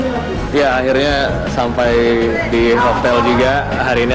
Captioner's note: non-english speech